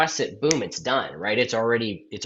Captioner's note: snaps